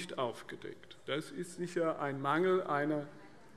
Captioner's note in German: none